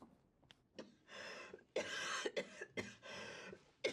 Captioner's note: coughing persistently